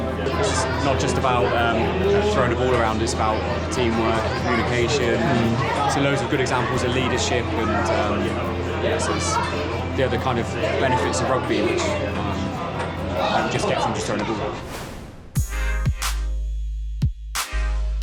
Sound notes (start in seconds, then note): none